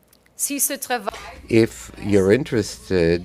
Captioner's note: speaking in French